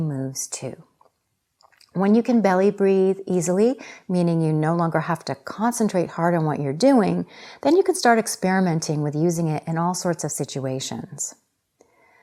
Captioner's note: breathing